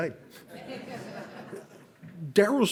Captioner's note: audience laughs